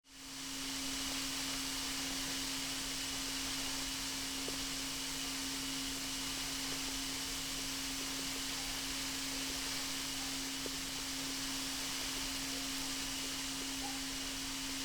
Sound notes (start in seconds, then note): 2.1 sprinkler sounds